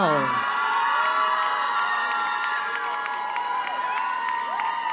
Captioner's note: cheering